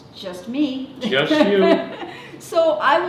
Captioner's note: laughter